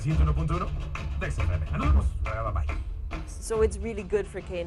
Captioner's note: spanish dialogue